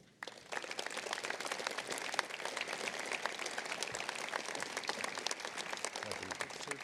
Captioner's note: applause